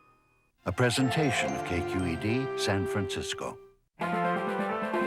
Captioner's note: voiceover